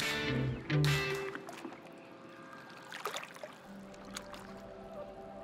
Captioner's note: energetic music; water dripping; relaxed music